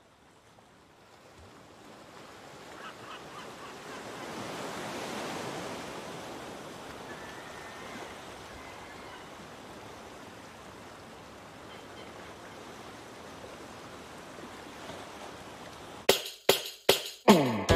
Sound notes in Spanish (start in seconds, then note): 1.6 Sonido de oleaje y gaviotas